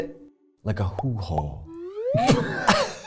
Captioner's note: bubbles popping; both laughing